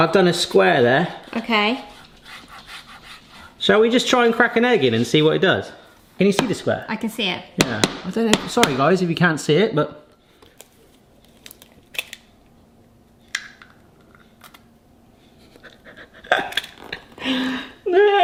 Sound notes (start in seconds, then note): 2.3 garlic scraping on pan; 8.3 egg tapping; 11.3 egg shell cracking slowly; 15.4 laughing